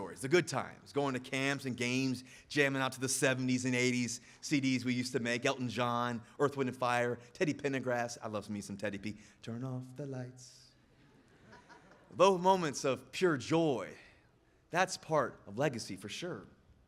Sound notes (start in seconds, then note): 11.0 audience laughing